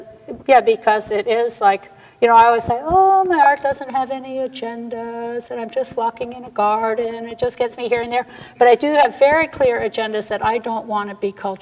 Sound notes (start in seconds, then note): none